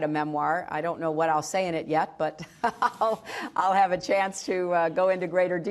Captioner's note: laughter